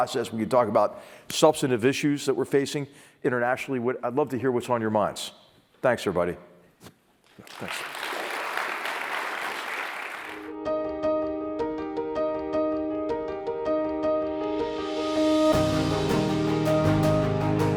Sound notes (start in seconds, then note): 7.3 applause